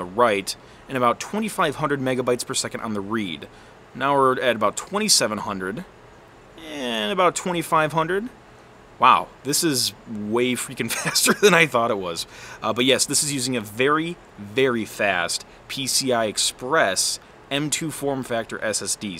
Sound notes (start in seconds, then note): 10.9 laughs